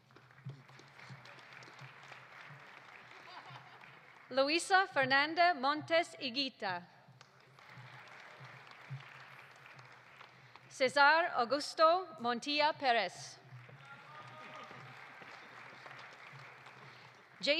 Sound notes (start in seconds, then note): 0.0 audience applauding; 7.1 audience applauding; 13.4 audience applauding; 13.8 audience cheering